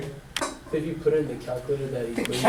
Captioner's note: voiceover